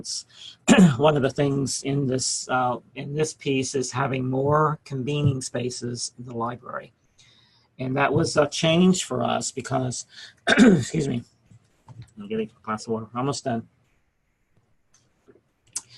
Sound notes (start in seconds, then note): 10.4 coughs